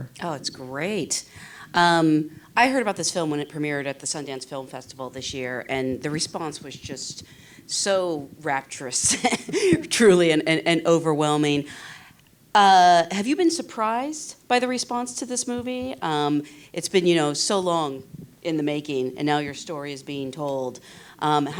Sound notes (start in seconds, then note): 9.1 laughs